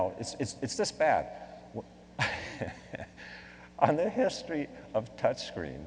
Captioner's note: laughing